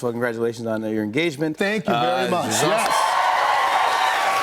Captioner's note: cheers and applause